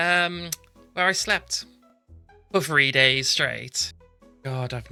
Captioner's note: lip smack